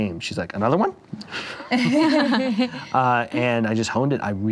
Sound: laughing

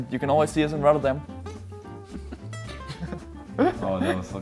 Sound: everyone laughing

